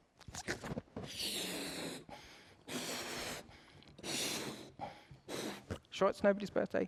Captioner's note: air blowing